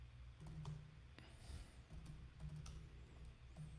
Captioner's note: typing